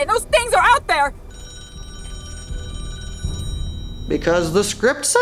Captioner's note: phone in booth rings